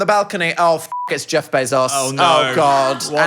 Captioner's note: beep